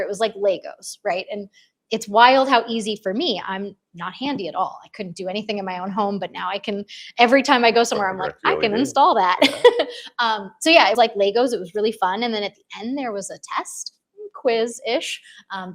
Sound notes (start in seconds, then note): 7.9 chuckles